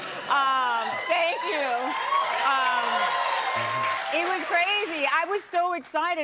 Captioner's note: cheers and applause